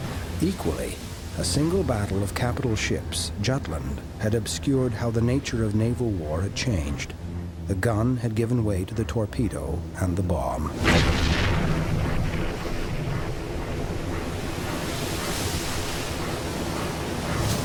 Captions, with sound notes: Equally, a single battle of Capital ships, Jutland, had obscured how the nature of naval war had changed. The gun had given way to the torpedo and the bomb. (explosion booms) (waves crashing)